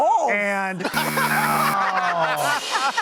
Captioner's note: buzzer